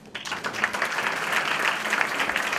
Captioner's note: applause